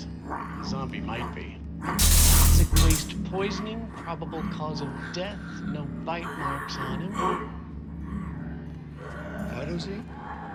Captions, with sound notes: The zombie might be Toxic waste poisoning-- probable cause of death. No bite marks on him. [snarling] - Phyto Z?